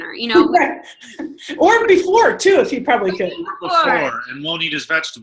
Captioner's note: laughter